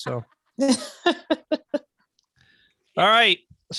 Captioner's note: laughing